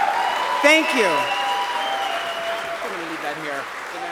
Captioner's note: applause